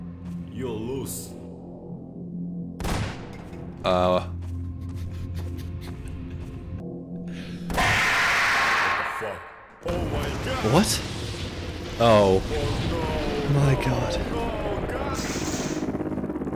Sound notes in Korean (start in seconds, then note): 2.8 총소리; 7.8 비명소리